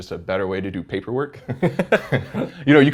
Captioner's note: laugh